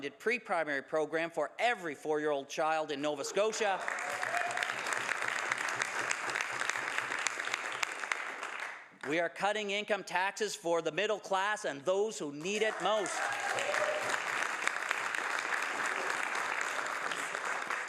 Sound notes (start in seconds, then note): 0.0 some Applause; 8.6 some Applause